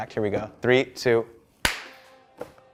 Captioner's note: clap